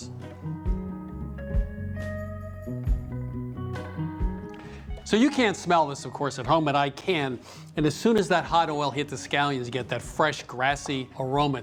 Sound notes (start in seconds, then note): 7.3 sniffs